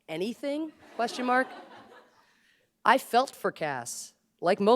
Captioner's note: laughter